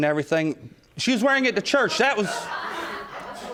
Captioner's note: audience laughing